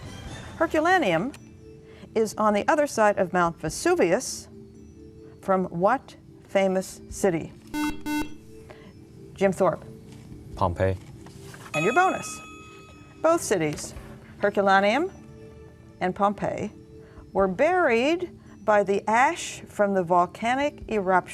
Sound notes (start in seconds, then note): 7.7 buzzer